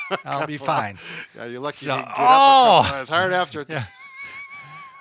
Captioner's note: laughs; groans; laughs